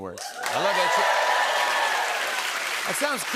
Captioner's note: cheers and applause